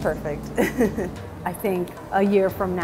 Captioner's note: chuckling